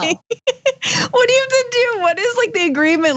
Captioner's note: laugh